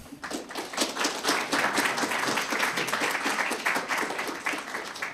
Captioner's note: audience applauding